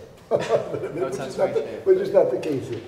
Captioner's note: laughing